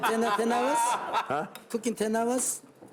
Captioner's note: man laughing